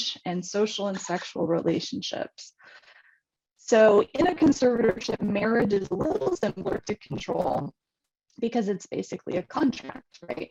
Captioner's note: distorted audio